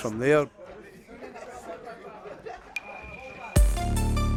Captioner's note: men chattering; upbeat techno music